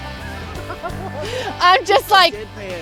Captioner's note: laughing